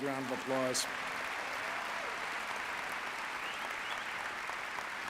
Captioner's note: audience applauding